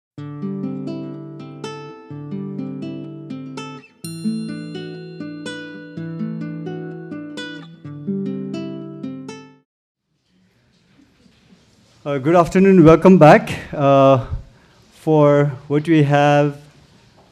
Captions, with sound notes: (relaxing guitar strumming) (bell chimes) - Good afternoon and welcome back for what we have.